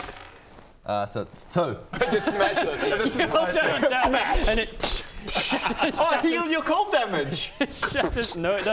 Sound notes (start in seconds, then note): 4.9 smash!